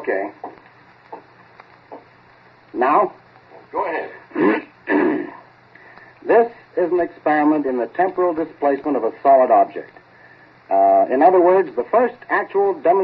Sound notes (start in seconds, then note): 0.8 footsteps to the mike; 4.1 clears throat grandly